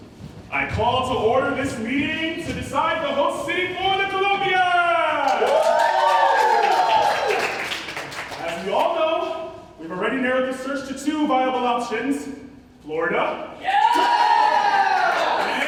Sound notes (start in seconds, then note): 4.8 ensemble cheering; 13.6 Floridians cheering